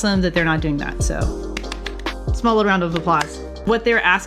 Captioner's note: claps